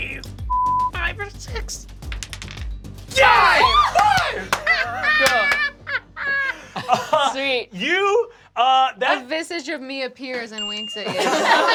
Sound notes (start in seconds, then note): 2.0 rolls dice; 4.4 laughter; 11.0 laughter